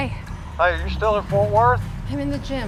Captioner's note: on phone